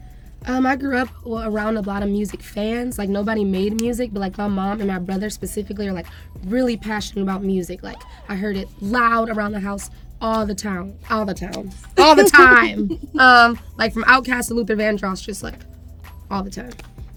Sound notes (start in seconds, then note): 12.0 laughs